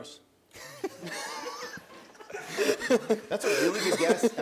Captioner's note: laughs